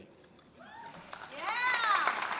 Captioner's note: audience cheering; audience applauding